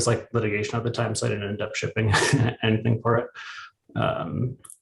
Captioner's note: chuckles